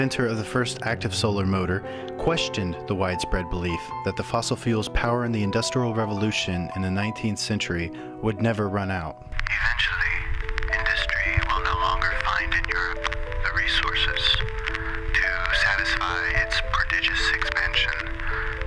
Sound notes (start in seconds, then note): 9.8 recorded Voice